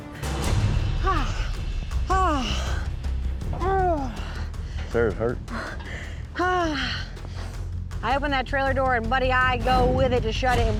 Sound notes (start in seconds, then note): 3.5 groaning